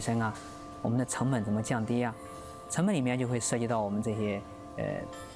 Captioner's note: speaking chinese